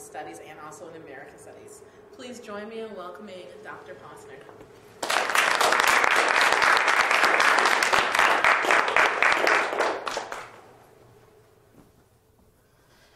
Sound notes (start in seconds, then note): 5.0 applause